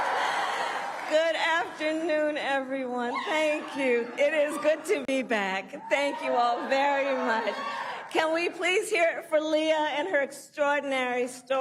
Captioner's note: cheering and applause